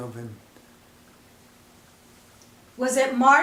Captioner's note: silence